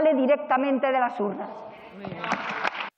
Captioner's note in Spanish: Aplausos.-Rumores